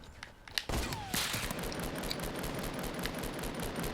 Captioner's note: gunfire